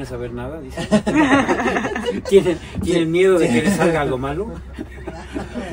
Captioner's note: laughter